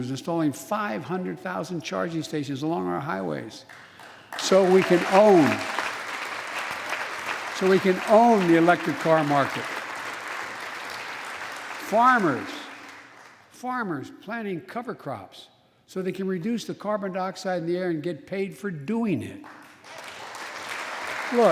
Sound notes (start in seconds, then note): 10.2 applause; 19.4 applause